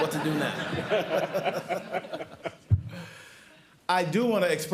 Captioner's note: laughter